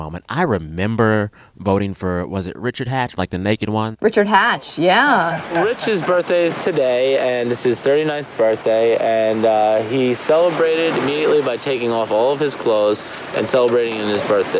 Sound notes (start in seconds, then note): 5.2 soundbite of tv show, "survivor"